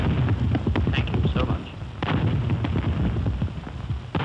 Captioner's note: gunfire